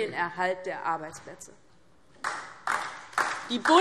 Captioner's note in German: Beifall DIE LINKE